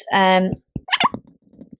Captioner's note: marker squeaking